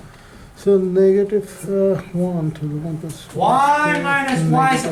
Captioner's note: voiceover